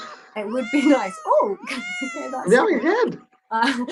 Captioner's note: meow sounds